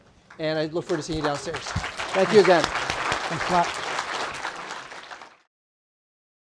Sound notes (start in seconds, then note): 3.9 applause